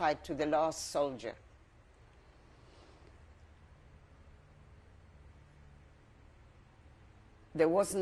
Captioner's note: pauses for 6 seconds